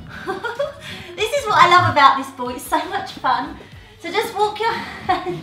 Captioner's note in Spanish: risas